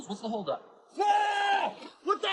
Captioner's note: yelling